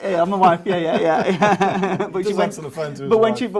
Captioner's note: laughs